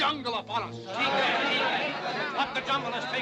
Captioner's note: men clamoring